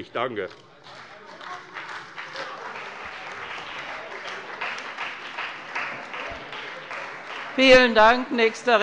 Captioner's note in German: Beifall bei der CDU und dem BÜNDNIS 90/DIE GRÜNEN